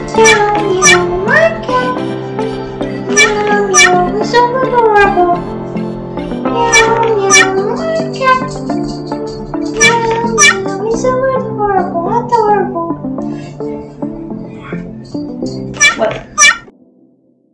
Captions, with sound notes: Meow, meow. My cat... Meow, meow. ...is so adorable. Meow, meow. My cat... Meow, meow. ...is so adorable. Adorable! (Meow! Meow!)